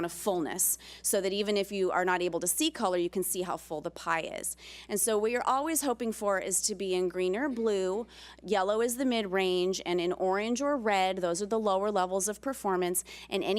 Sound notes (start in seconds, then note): none